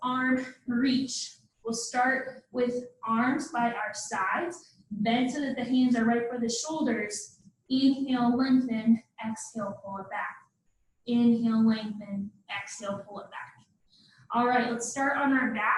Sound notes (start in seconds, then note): none